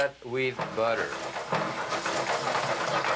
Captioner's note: sizzling